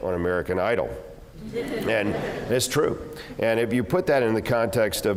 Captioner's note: laugh